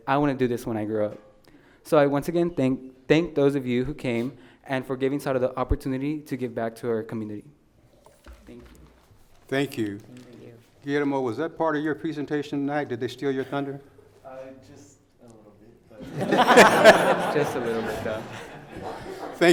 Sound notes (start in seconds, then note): 16.0 laughing